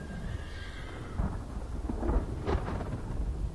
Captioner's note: distant thunder